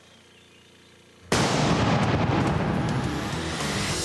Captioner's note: explosion